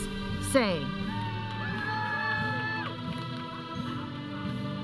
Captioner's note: audience cheering; processional music